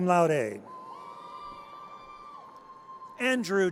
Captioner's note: audience cheers